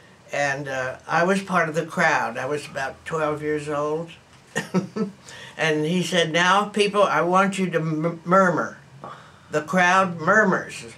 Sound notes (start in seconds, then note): 4.9 laughs